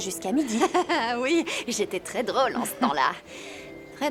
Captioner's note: laughing